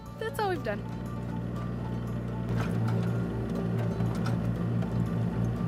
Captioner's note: excavator rumbling